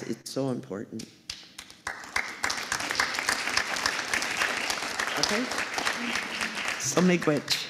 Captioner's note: applause